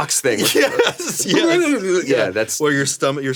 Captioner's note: Damien growling